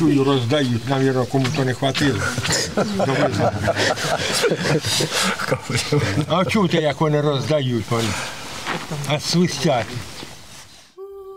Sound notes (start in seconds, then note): 3.4 laughing